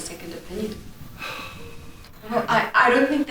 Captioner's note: Victor sighs